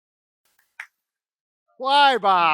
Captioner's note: claps